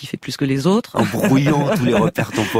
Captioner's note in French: rires